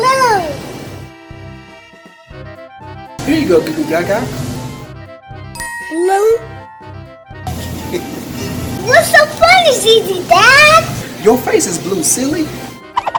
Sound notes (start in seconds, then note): 0.9 curious music; 5.6 magical ting; 7.6 ZZ Dad laughing; 12.9 cartoony swishing